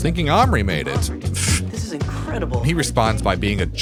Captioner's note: pff